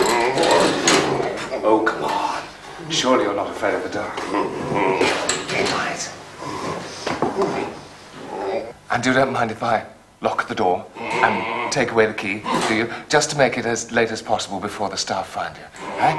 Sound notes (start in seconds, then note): 4.2 growls; 7.2 grunting